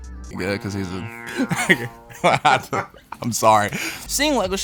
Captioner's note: laughing